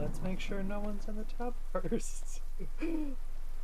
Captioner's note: giggles